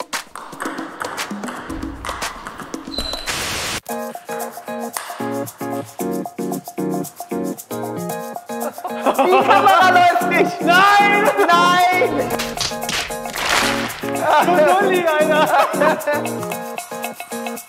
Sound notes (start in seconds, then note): 3.4 static buzzing; 4.7 cheerful music; 8.5 players laughing; 10.1 players speaking German; 12.2 hands striking foreheads; 14.5 players laughing